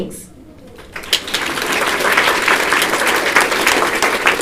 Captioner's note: applause